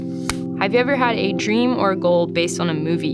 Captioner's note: clapboard closing